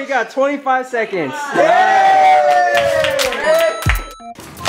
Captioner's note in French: applaudissements